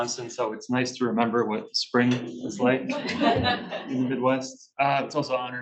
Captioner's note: laughs